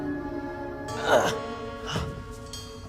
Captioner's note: groans